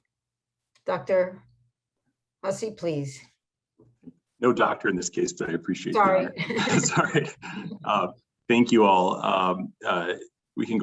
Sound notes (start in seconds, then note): 6.1 laughter